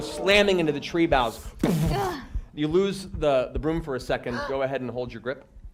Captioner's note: crashing sound